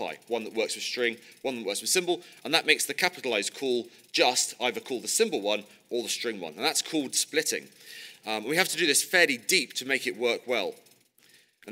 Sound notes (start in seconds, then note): none